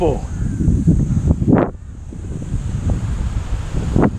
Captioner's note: wind blowing